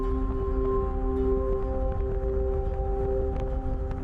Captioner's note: wind blowing